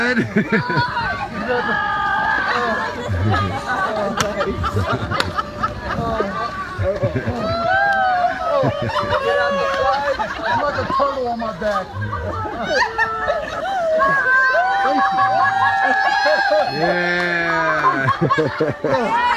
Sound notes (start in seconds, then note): 0.0 laughter; 0.4 cheering; 3.2 yelling; 3.8 laughter; 10.2 laughter